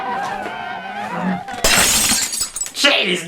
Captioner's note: glass breaks